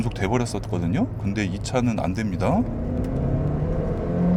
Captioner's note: engine sound